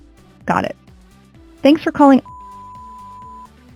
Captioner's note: beep